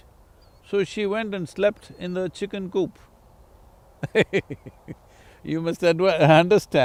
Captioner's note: laughs